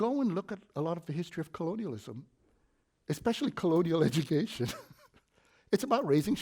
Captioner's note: snicker